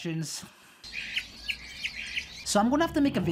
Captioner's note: birds chirping